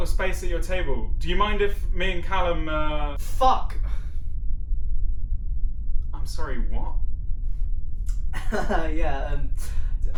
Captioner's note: laughs awkwardly